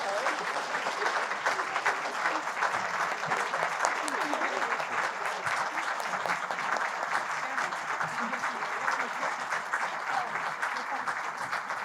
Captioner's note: applause